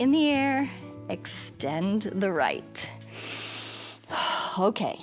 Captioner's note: inhales and exhales